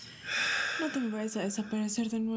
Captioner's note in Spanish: suspiros